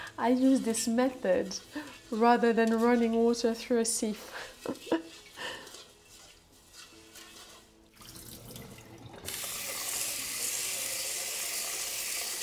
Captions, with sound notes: I use this method rather than running water through a sieve. (water trickling) (water running)